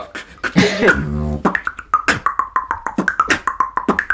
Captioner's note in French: beatbox